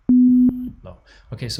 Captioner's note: low tone beeps